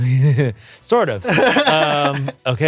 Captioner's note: Ian laughs